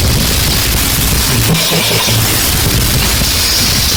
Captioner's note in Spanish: risa del papu :v